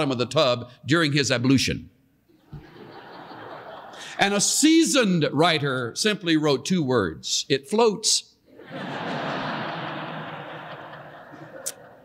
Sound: laughter

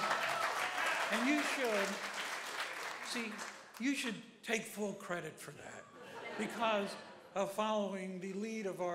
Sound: applause

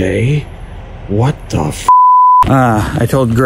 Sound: beep

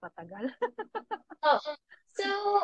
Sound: laughs

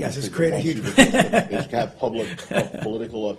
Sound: laughing

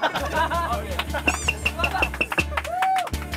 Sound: laughing

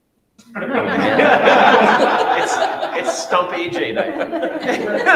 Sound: all laughing

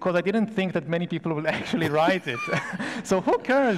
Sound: laughs

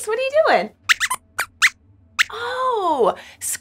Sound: squeaks squeaks

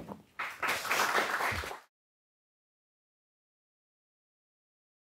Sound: audience applauding

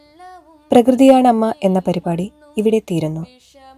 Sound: radio playing

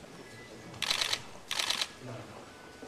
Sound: camera clicks

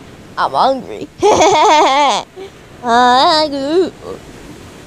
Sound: Seiya: hahahaha!

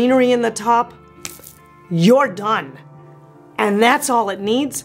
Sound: snaps

